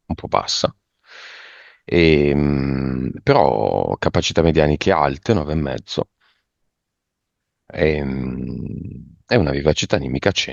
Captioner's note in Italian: suono gutturale